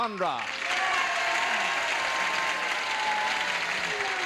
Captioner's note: audience cheers